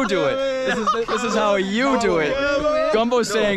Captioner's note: loud bantering